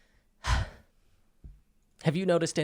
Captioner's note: deep breathing